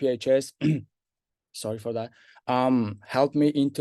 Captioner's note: clears throat